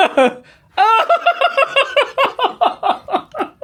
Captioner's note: laughs